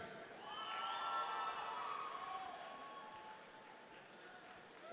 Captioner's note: audience cheering